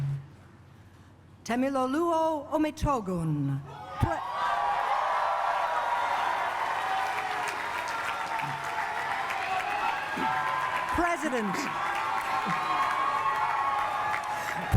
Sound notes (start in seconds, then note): 4.3 cheering